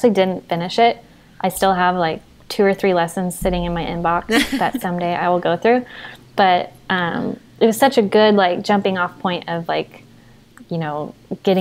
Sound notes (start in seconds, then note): 4.3 they laugh